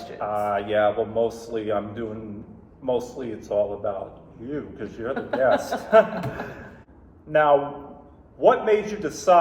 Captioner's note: laughter